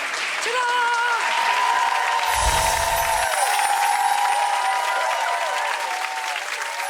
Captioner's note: audience applauding